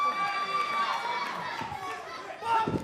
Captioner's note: cheers & applause